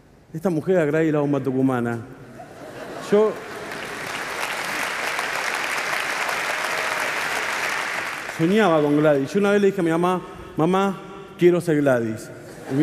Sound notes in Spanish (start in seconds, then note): 2.3 Risas; 3.3 Aplausos